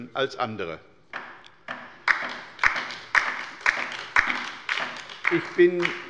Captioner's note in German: Beifall bei der LINKEN